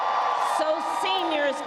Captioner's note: cheering